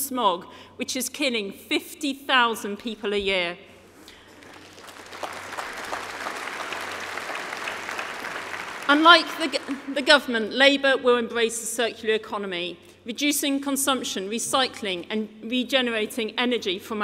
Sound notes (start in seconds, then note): 8.0 applause